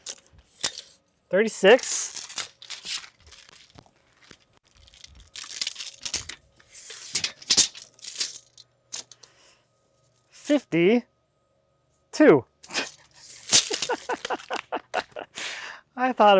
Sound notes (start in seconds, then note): 7.2 tape measure crinkles; 13.5 laughs